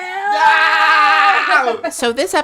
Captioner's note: laughs